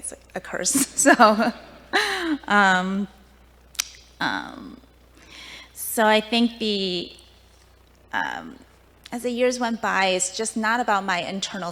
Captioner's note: laughing